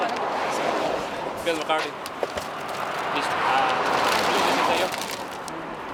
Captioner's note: car whooshing; crew chattering